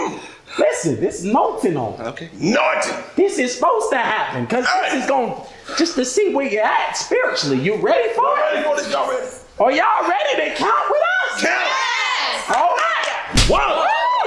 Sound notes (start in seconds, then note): 0.0 giggle; 11.4 crowd; 13.3 slap